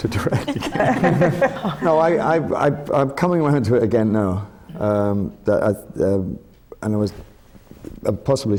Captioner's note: laughter from the panel